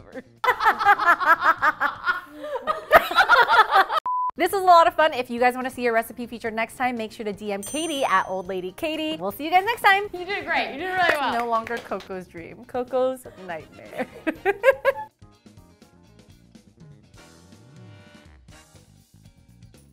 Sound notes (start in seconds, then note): 0.4 laughs; 3.8 intermission beeping; 13.8 laughs; 15.4 upbeat music